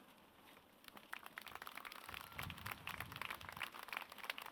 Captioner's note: audience claps